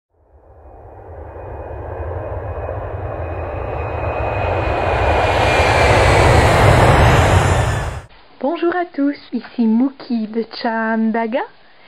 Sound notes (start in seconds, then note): 0.2 plane noise